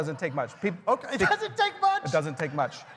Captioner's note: laughter